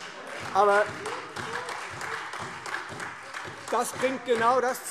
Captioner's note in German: Beifall Freie Demokraten, AfD und vereinzelt SPD